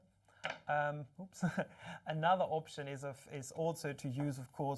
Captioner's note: chuckles